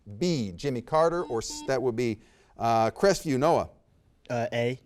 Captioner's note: buzzer beeps